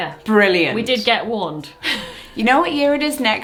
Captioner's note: giggles